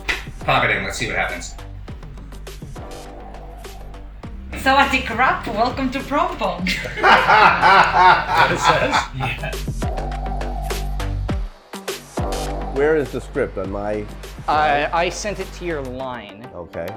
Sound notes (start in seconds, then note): 9.6 laughs